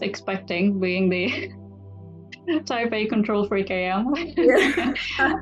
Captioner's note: laughs